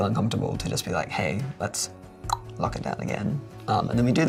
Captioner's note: tongue click